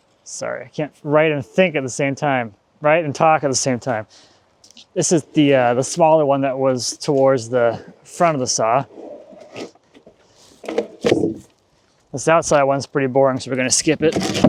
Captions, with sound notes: Sorry I can't write and think at the same time, write and talk at the same time. This is the smaller one that was towards the front of the saw. (wood clanging) This outside one's pretty boring so we're gonna skip it.